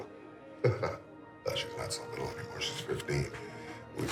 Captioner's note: laughs